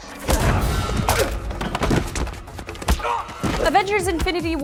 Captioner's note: grunts